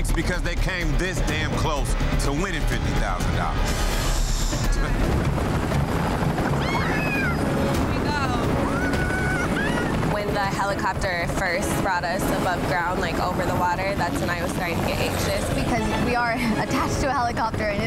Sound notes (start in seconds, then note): 4.0 dramatic music; 4.0 helicopter rotors thumping